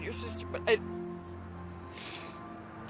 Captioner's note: sniffffles